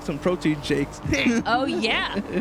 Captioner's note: laughs